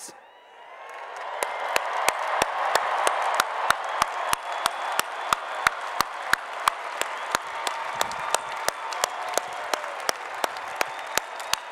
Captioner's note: applause and Cheering